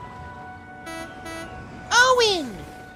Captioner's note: philip honks horn